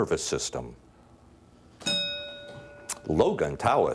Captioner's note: bell dinging